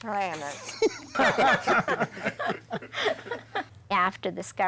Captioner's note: all laughing